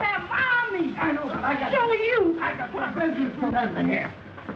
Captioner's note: scuffling